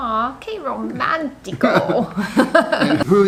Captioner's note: laughs